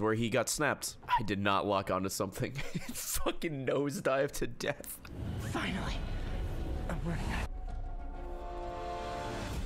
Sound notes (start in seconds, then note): 3.1 laughs